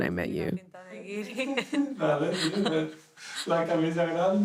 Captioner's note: speaking Spanish